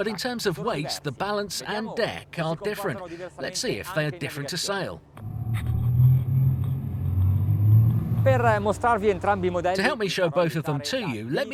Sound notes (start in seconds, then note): 5.1 boat engine running; 8.4 speaking in a foreign language